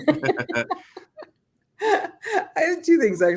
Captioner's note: laughing